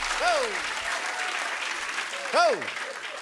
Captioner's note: applause